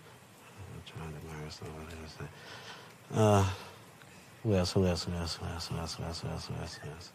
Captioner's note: murmuring